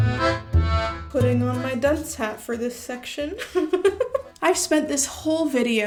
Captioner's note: giggles